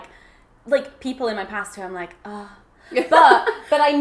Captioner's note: gasps